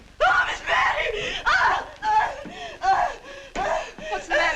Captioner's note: sara howling